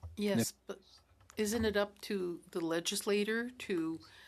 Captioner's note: speaking French